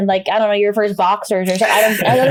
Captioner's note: laughs